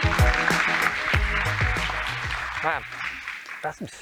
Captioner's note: applause